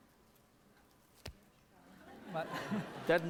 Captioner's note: non-english speech; snap